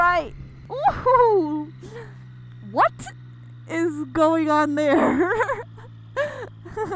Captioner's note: chuckles